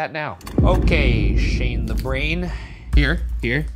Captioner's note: gate slamming